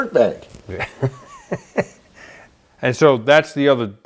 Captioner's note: laughter